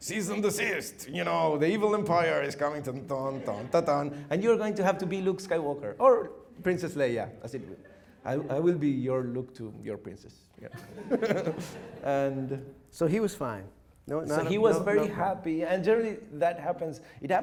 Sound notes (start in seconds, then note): 3.3 humming; 7.4 audience laughing; 10.6 laughing